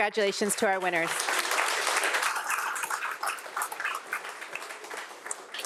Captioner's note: audience applauding